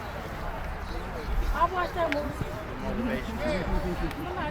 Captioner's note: crowd murmur